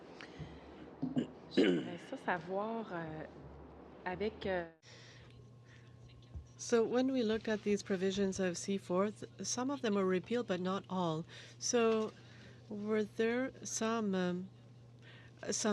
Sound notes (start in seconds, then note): 9.0 speaking French